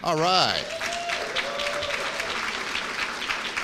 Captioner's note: applause